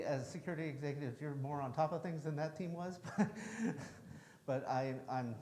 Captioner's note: chuckles